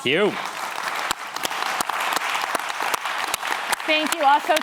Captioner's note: applause